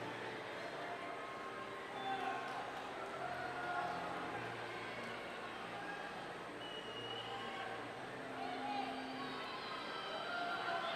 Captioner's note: crowd cheering